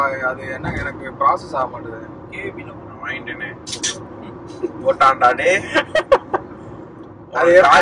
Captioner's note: chorus shh